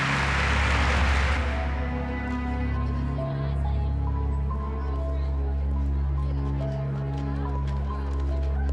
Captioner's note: many people talking